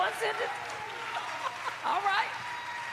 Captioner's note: cheers and applause